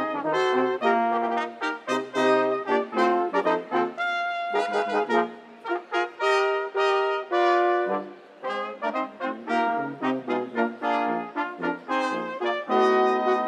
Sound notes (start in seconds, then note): none